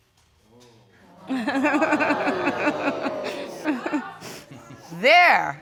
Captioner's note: laughing